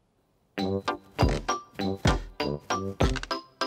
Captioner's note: feet thud heavily